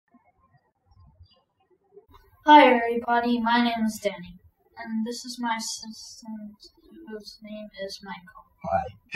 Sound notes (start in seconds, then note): 0.2 birds chirping